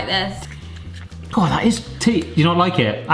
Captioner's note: crunching